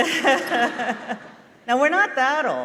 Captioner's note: laughter